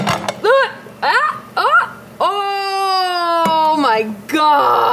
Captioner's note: yelling